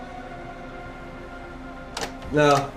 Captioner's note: door opening